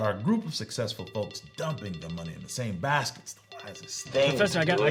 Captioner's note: phone ringing